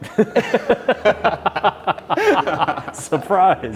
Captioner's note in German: beide lachen